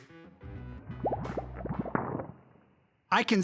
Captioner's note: bubbling